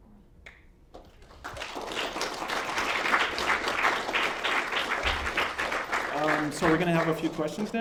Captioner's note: applause